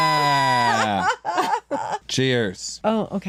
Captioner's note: laughter